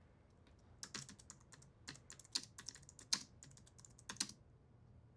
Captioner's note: keyboard clicking